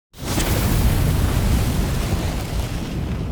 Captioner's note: loud thundering